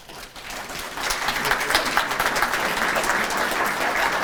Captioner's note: audience applauding